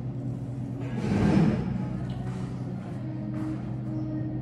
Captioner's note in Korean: 기지개 끙-차